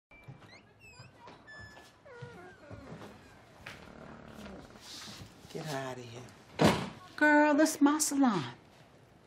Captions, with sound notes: [door creaking open] Get her out of here. Girl, this is my salon.